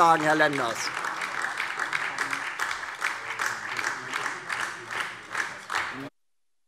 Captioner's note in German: Beifall DIE LINKE und BÜNDNIS 90/DIE GRÜNEN - Zurufe AfD